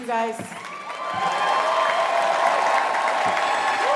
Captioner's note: crowd cheering